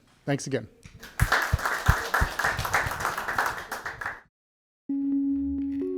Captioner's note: audience clapping; gentle music